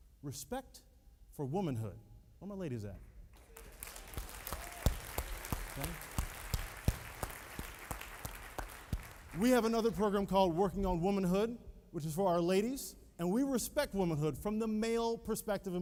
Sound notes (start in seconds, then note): 7.5 applauding